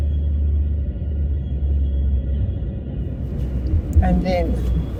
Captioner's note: distant train noise